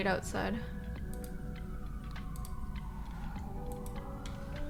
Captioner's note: sirens wailing